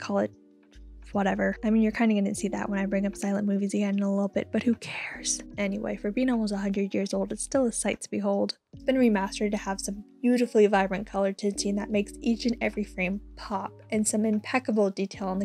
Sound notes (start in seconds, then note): none